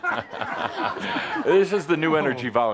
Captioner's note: laughter